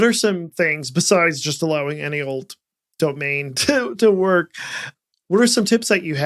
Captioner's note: chuckles